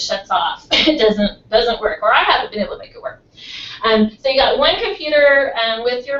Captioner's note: cough